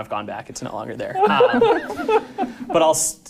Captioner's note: laughing